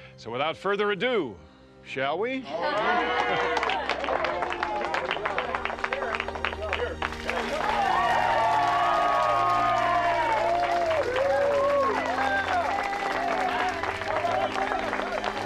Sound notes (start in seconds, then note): 2.7 group cheering